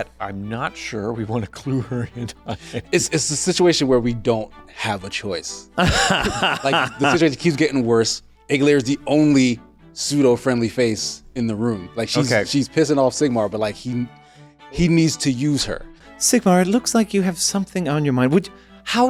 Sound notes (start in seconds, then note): 5.8 laughing